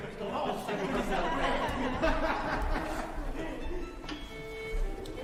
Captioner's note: people laughing; instruments playing